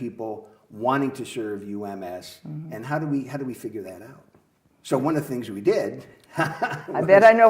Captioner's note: laughs